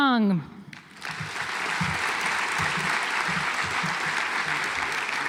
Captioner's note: audience applauds